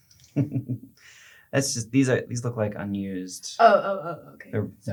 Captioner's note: laughs